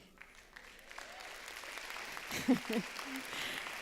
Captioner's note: applause